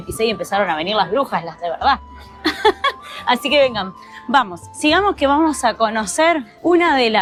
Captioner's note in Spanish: risas